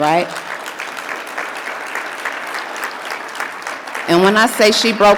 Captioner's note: audience clapping